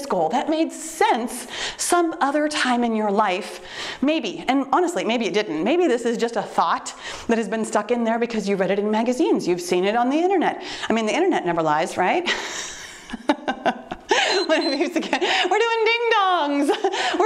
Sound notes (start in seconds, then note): 12.5 laughs; 14.2 timer beeps